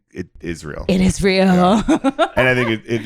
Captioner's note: laughs